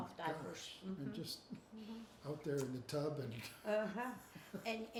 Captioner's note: chuckles